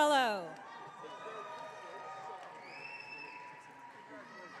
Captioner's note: audience cheering